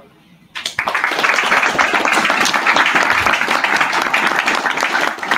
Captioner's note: audience applauding